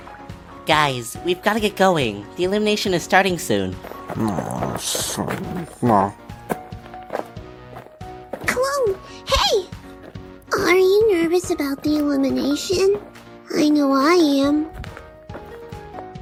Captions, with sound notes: Guys, we've got to get going. The elimination is starting soon. *grumbling* Cologne, hey! Are you nervous about the elimination? I know I am.